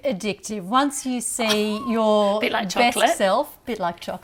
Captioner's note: laughs